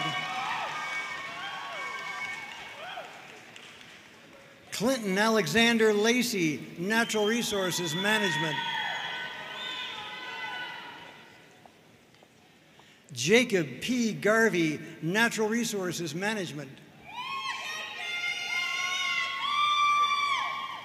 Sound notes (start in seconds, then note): 0.0 audience cheering and applauding; 8.1 audience cheering and applauding; 17.0 audience cheering